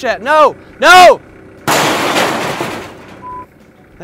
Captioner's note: crash